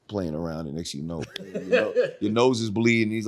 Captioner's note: he Laughs